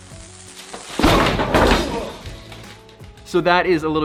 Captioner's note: sizzling